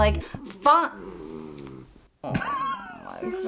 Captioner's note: dog groans